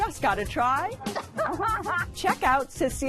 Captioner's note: laughs